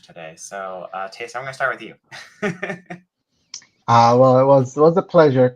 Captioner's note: laughs